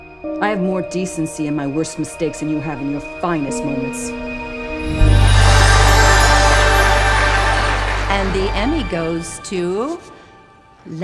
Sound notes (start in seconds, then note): 4.8 audience applauding